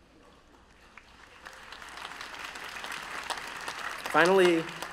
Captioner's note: applause